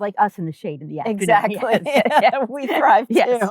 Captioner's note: laughing